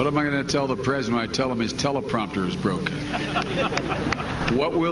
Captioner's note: laughter